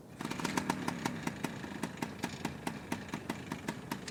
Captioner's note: engine sputtering